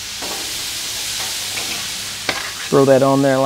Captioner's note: sizzling